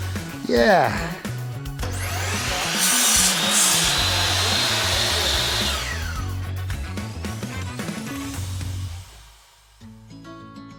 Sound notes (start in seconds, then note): 1.8 saw buzzing; 9.7 gentle music